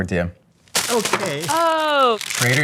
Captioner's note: wrapper crunching